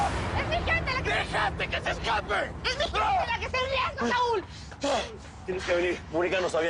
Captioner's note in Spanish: Karen grita